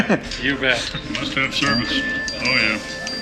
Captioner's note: cellphone dings